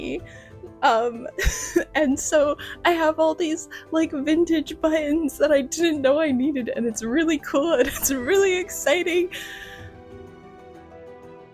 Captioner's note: laughter